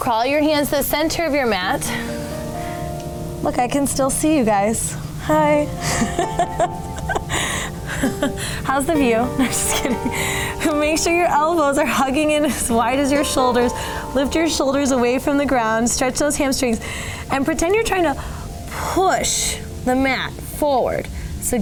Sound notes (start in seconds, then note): 5.8 laughing